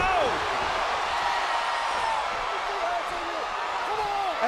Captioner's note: crowd cheering continues